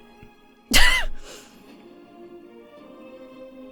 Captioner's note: wheezes